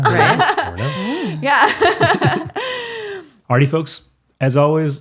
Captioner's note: laughing